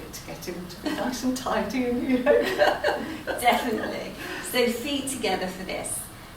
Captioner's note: laughter